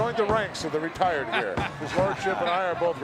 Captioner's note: chuckling